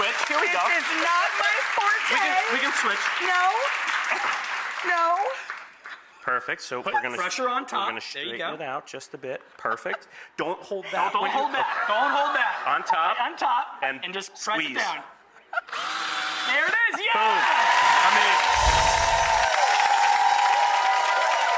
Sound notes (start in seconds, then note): 15.6 drill whirs; 18.7 audience cheers